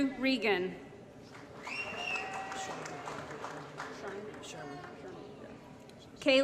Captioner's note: applause & Cheering